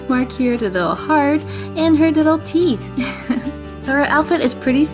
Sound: giggling

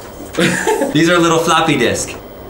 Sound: laughs

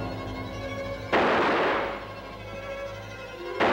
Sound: gun shots

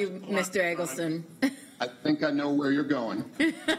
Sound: laughter

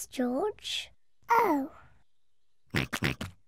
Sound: oinks

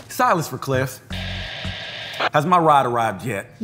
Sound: walkie crackling

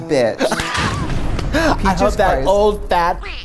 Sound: laughs

